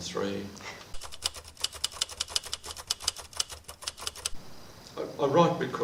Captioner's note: typewriter clicking